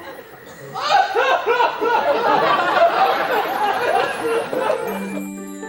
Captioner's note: John Little cries